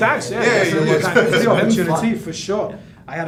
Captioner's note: all shouting